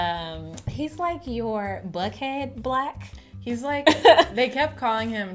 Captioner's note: laughs